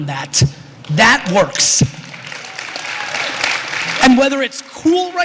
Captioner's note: applause